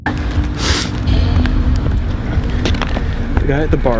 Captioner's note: intense sound effect